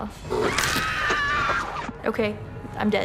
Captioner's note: screaming